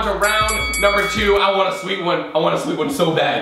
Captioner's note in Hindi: घंटी dings